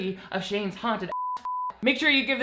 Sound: beep

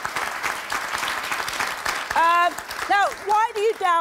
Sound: audience applauding

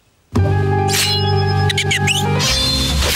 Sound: whimpering

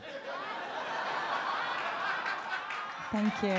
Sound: audience laughs and claps

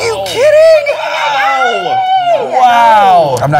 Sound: clare cheering

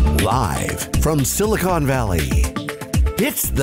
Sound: voiceover

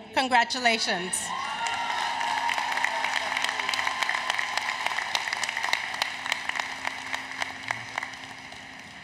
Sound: applause, Cheering

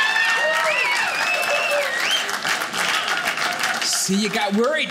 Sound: audience cheering

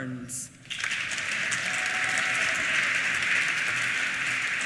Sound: applause

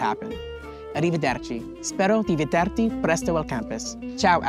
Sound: speaking Italian

